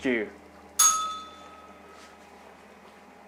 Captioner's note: bell rings